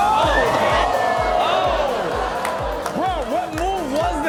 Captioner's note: audience gasps